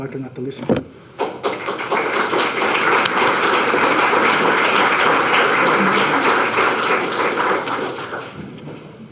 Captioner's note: audience applause